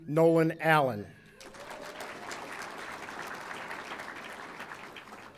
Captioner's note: audience applauding